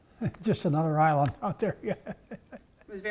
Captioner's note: laugh